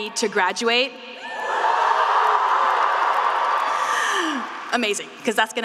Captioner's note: students cheering